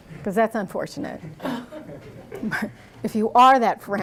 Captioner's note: laughter